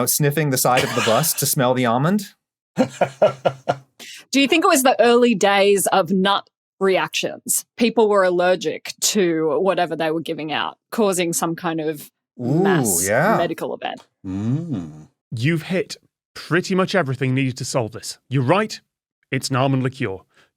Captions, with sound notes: sniffing the side of the bus to smell the almond? (laughs) Do you think it was the early days of nut reactions? People were allergic to whatever they were giving out, causing some kind of mass medical event? Ooh yeah, mm. You've hit pretty much everything needed to solve this. You're right, it's an almond liqueur.